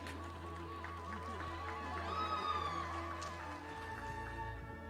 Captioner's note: audience applauding